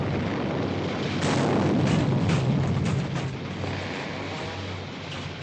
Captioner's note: explosion